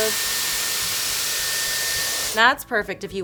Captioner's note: dryer whirs